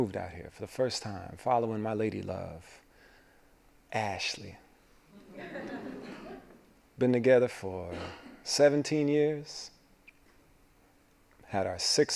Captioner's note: laughing